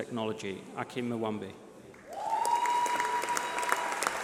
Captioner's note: applause